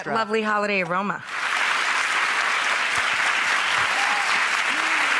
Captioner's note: audience applauds